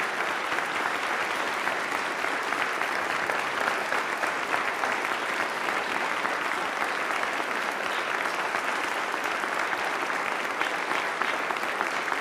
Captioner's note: applause